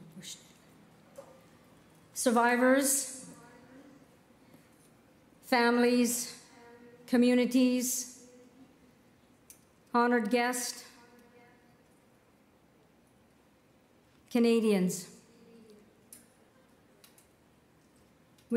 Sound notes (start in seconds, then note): 2.8 speaking Indigenous Language